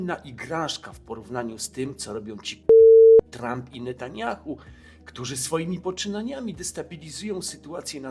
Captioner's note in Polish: beep